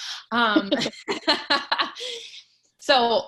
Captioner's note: laughs